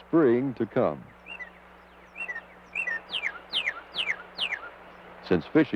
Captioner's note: nature sounds